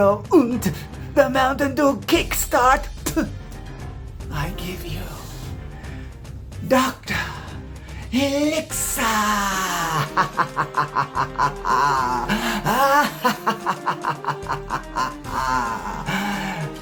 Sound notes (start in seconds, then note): 11.4 laughs